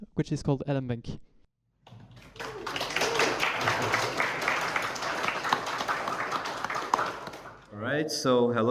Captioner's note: clapping